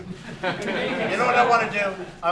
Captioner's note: laughter